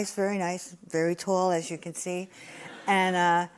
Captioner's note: laughter